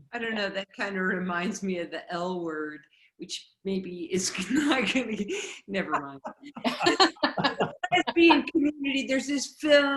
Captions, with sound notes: I don't know, that kind of reminds me of the L word, which maybe is, (laughing) nevermind. (everyone laughing) There's this film.